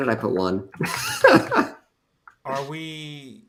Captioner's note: laughs